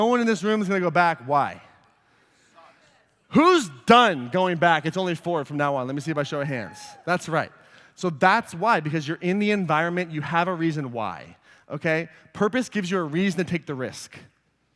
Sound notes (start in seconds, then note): 6.3 cheering